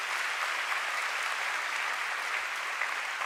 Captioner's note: applause